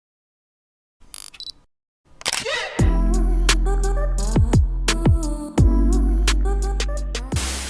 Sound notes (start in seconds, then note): 0.5 camera shuttering; 2.8 chill music